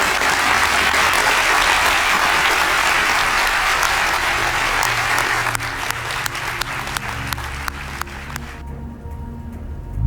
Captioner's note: applause